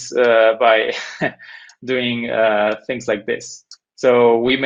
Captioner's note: chuckles